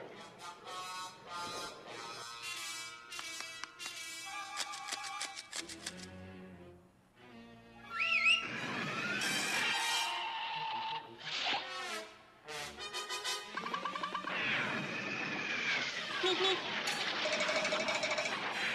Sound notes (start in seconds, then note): 7.9 coyote whistles; 10.6 screech; 16.0 beep beep